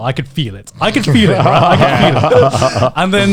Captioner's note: laughing